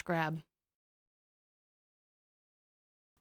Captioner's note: awkward silence